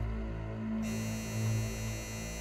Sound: door bell

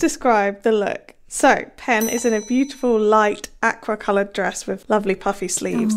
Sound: bell dings

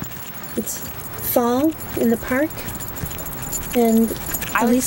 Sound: clinking

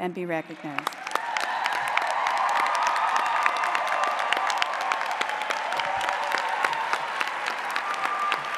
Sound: applause

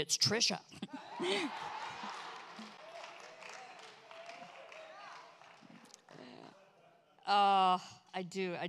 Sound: congregation cheers

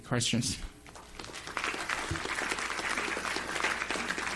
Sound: applause

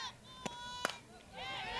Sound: bat hits ball

